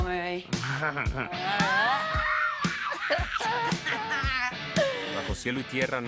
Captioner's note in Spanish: Risas; Exclamaciones